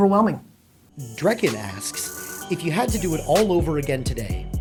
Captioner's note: voiceover